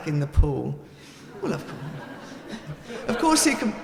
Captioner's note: audience laughing